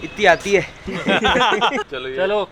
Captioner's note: laughing